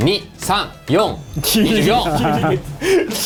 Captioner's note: laughs